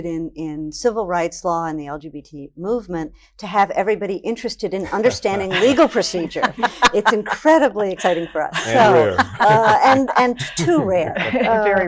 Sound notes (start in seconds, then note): 6.2 laughs